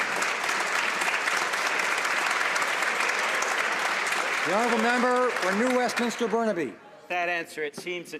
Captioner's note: some Applause